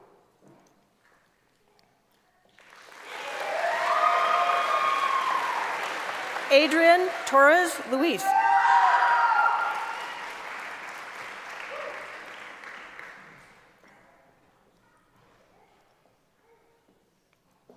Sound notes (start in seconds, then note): 11.6 cheering; 14.2 applause